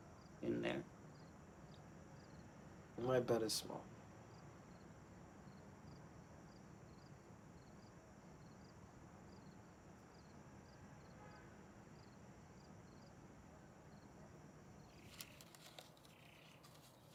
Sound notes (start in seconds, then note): 10.6 crickets chirping